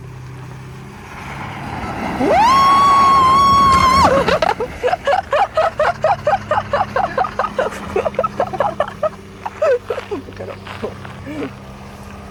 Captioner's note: laughs